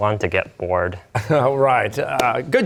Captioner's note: chuckling